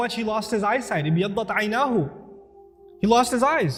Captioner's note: Arabic